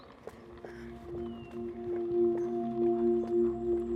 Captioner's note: rapid footsteps, Oney panting